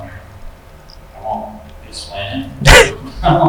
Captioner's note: laughs